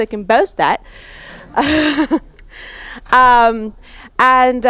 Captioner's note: announcer chuckles